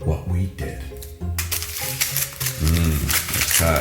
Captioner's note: foil rustling